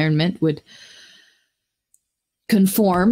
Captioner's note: inhales